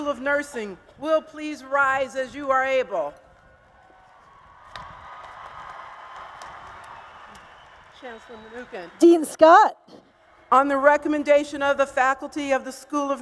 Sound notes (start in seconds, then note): 4.2 applause and Cheers